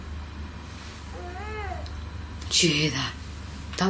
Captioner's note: baby crying